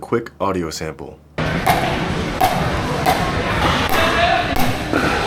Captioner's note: paddle tapping